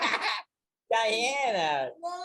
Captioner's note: all laughing